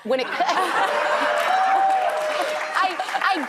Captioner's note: audience laughs